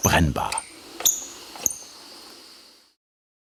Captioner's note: squeaking